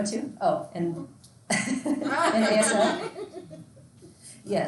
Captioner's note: laughs loudly